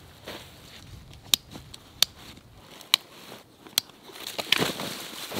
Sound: buckles clicking

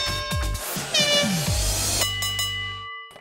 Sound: horn blowing

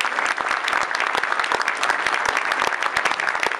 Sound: applause

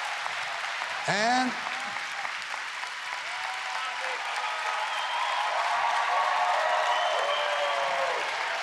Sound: cheering and APPLAUSE

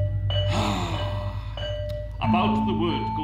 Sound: sighs

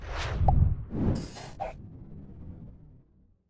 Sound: air whooshing

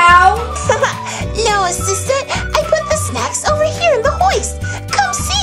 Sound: laughs

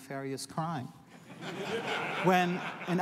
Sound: laughter

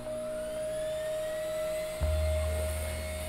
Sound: whirring

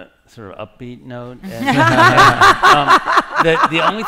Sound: laughter

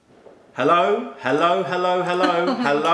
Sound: laughter

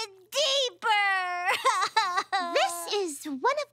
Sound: crying

